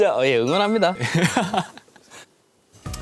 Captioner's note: haha